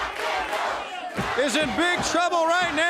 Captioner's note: crowd cheering